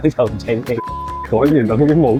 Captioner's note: beep!!